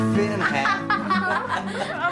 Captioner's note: everyone laughs